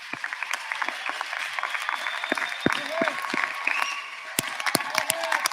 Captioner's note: applause; cheers and applause